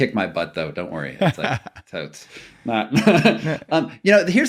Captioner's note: laughing